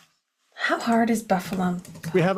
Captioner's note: typing